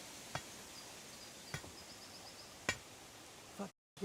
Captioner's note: metallic thudding